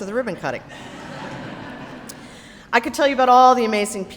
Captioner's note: audience laughs